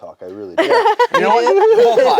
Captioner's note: laughs